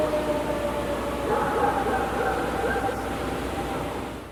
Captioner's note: animal howling; dog barking